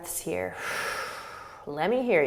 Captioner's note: exhaling